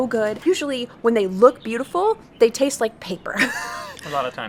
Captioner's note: laughs